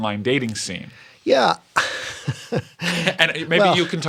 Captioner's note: laughter